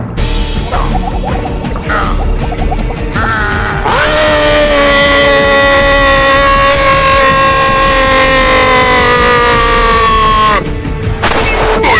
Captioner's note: gargling